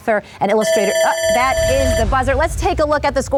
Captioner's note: electric buzzing